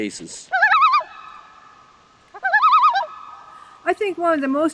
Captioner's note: loon Call